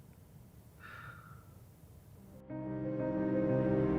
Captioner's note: sighs; emotional piano music